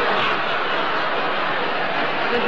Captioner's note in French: rires